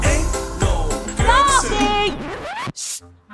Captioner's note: record scratches